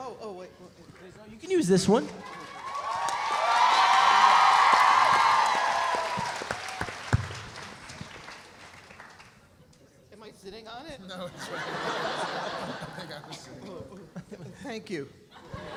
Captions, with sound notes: - Oh, oh, wait. - No, you can use this one. (audience cheering) (audience applauding) - Am I sitting on it? - No, it's right here. (audience laughs) Here you go. - Thank you.